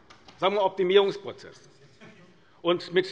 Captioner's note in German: Lachen bei der SPD